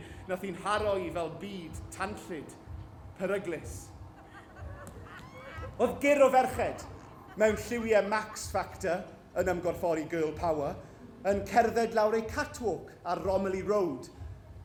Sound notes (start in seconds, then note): 4.0 catty female laughter